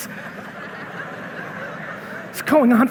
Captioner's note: audience laughing